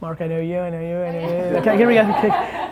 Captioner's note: laughing